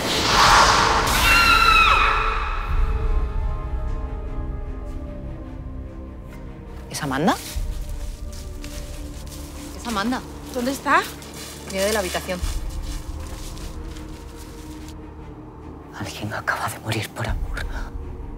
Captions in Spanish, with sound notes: (GRITA) ¡No! ¿Es Amanda? Es Amanda. ¿Dónde está? Viene de la habitación. Alguien acaba de morir por amor.